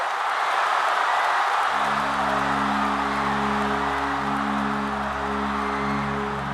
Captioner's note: cheering